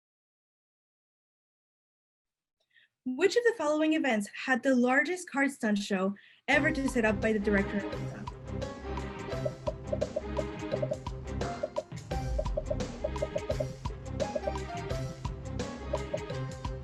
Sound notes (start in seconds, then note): 7.8 popping; 9.1 upbeat music